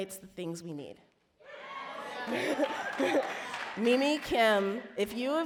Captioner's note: audience cheer